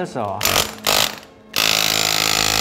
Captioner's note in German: Tiefes Bohrgeräusch